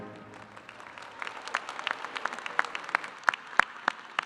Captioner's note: audience applauding